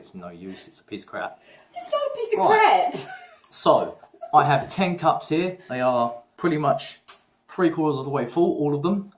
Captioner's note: laughing